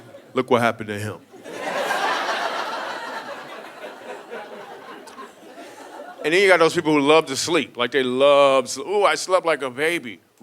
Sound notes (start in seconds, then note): 1.3 audience laughing